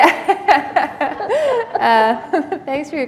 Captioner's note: laughter